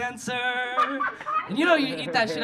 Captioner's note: audience laughing